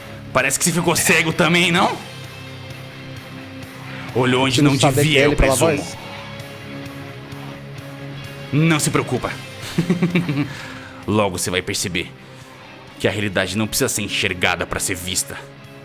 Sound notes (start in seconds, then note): 9.4 laughs